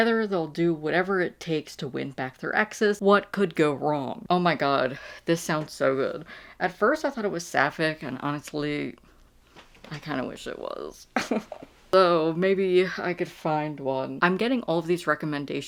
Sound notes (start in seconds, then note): 11.2 laughs